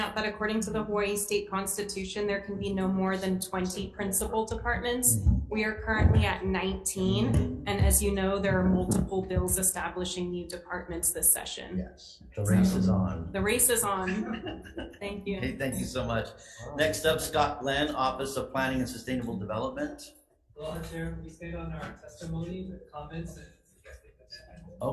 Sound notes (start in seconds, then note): 13.9 board members chuckling; 23.8 speaks faintly